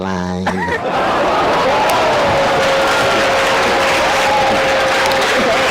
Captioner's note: laughter; audience applause